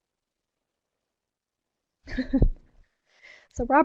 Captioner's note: laughs